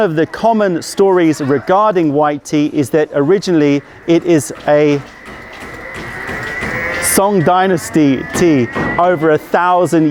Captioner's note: passing vehicle